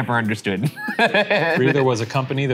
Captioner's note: laughs